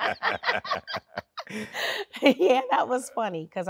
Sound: both laughing

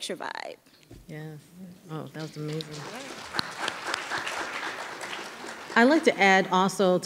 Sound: audience applauding

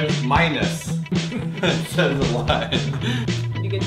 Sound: laughs

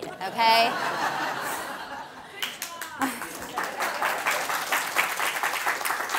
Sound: audience laughs and applauds

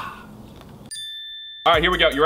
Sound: bell dinging

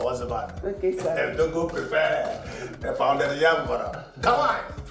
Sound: foreign language

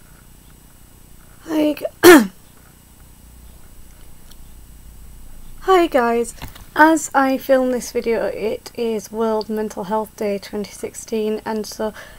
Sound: coughs

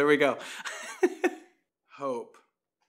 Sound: laughs

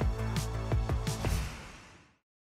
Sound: whoosh

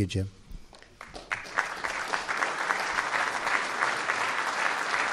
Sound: group applause

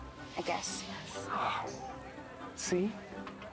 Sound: sighs

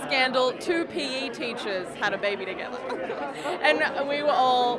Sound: giggling

